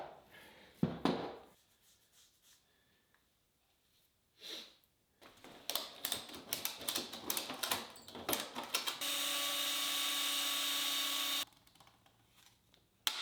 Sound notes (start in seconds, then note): 8.2 tool clicking; 8.9 machine whirring